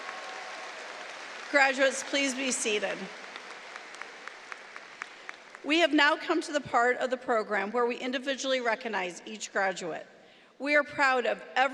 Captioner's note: applause